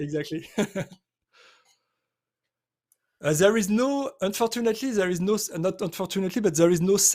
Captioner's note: laughs